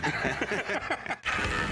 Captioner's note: laughter